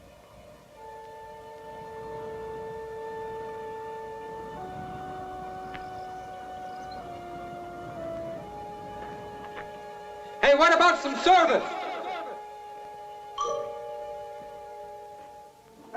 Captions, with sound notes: (eerie instrumental music) - Hey, what about some service? (echoing)